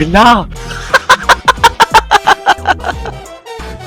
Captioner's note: laughs